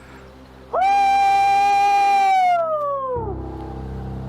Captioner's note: aullando